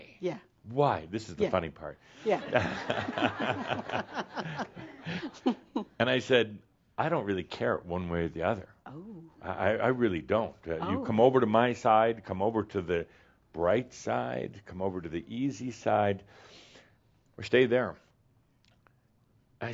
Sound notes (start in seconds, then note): 5.7 more chuckles